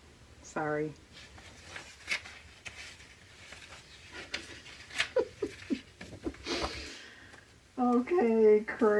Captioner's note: laughs